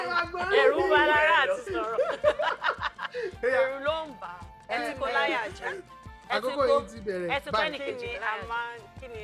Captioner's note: laughs; laughs